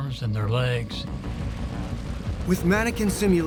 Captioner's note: flames roaring